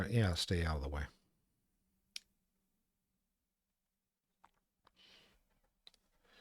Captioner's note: silence